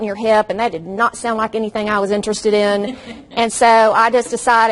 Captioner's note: audience laughs